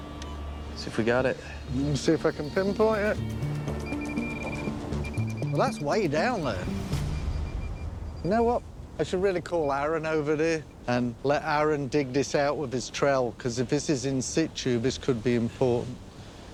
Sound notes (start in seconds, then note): 3.5 beeping